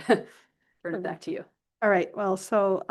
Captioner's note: chuckle